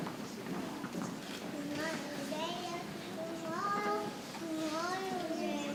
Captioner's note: people chattering softly